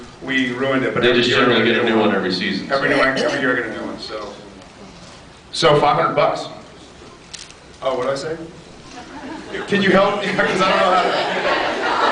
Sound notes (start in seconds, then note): 9.0 scattered laughs